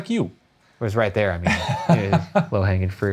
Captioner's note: laughing